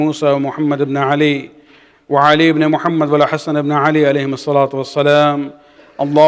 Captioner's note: arabic; arabic